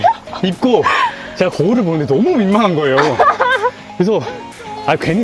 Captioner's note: laughter